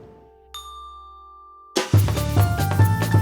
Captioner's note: bell rings; upbeat music